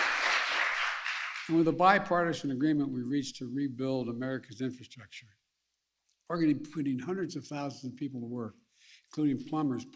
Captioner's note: applause